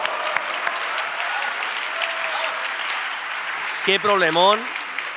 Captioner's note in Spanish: Aplausos